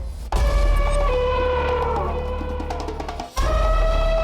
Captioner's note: tribal music; elephant trumpeting